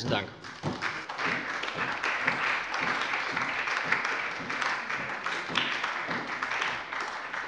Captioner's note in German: Beifall bei der SPD und der LINKEN